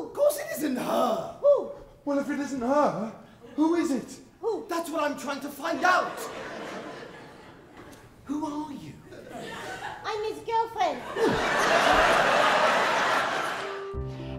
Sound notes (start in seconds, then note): 5.8 audience chuckling; 10.9 audience laughing